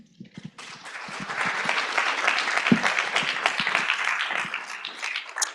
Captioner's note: applause